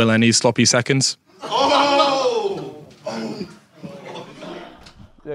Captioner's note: audience groans